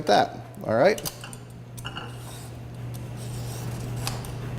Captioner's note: peeler scraping